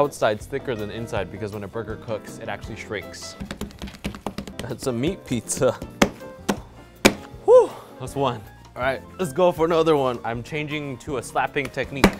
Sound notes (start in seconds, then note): 3.4 fists thumping; 7.0 hands thumping; 11.6 hands thumping